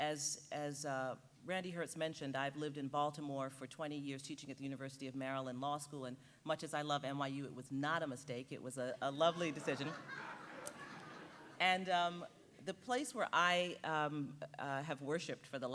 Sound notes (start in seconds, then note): 9.2 audience laughing